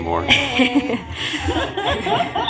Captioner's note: laughter